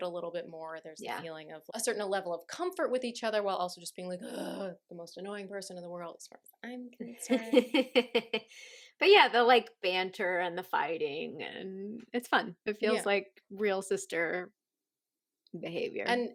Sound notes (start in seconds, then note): 4.2 guttural annoyance; 7.3 laughter